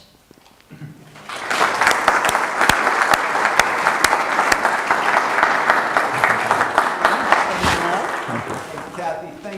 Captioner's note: audience applause